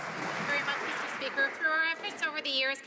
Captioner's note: some Applause